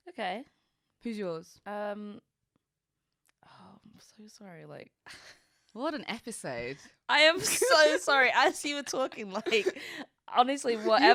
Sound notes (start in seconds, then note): 4.2 chuckles; 7.4 both laughing